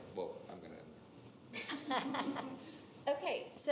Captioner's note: attendees laughing